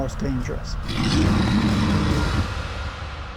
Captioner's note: animal growls